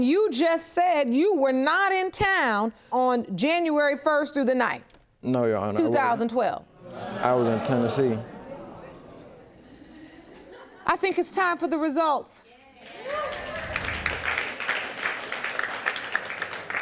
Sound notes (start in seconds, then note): 12.8 clapping